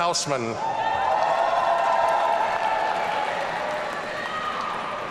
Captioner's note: audience cheering